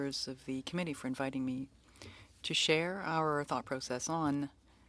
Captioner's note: speaking French